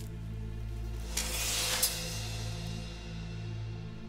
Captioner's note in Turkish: Kılıç sesi